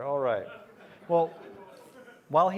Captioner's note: laughter